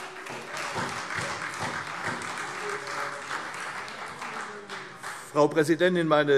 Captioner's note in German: Beifall